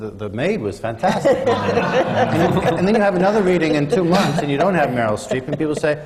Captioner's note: laughter